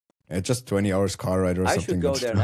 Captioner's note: chuckles